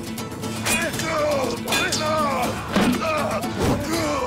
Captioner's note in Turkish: Bağırıyorlar